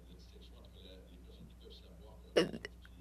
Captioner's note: speaking French